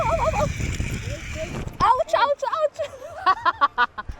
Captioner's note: laughs